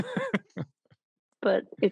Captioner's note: laughs